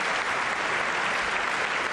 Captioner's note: applause